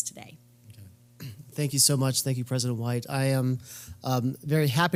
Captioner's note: cough